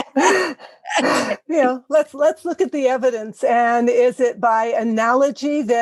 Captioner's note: laugh